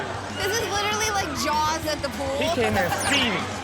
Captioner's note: laughs